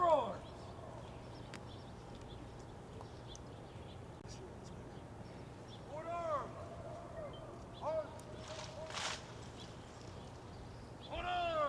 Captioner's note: shouted commands